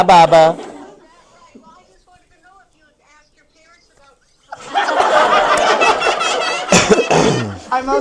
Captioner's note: laughs